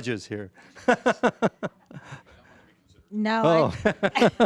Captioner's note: laughing